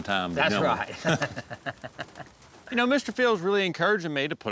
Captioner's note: both laugh